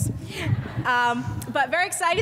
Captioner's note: audience laughs